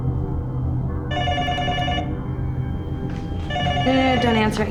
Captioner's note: phone ringing